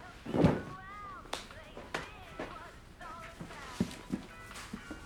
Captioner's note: hands smacking